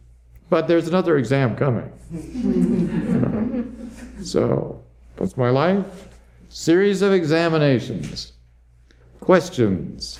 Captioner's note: laughter